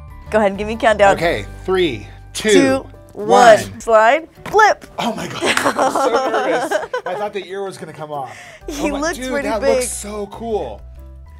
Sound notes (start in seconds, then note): 5.2 laughing